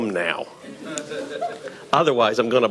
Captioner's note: audience laughing